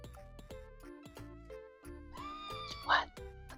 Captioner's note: scream